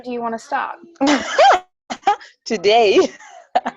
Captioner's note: laughs